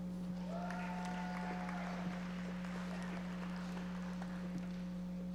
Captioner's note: audience members applauding